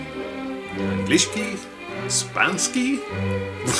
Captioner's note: speaking poor Russian